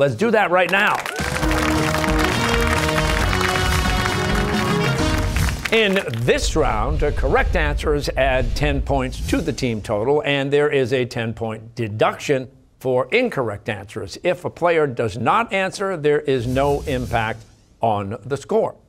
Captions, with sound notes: Let's do that right now. (cheers and applause) In this round, correct answers add ten points to the team total and there is a ten-point deduction for incorrect answers. If a player does not answer, there is no impact on the score.